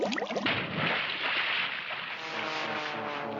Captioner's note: water Bubbling; splashes